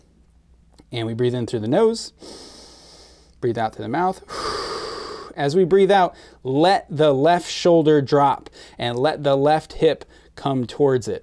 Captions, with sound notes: and we breathe in through the nose, *inhales* breathe out to the mouth. *exhales* As we breathe out, let the left shoulder drop and let the left hip come towards it.